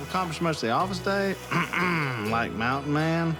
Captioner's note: clears throat